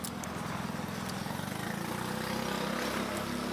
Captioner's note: engine noises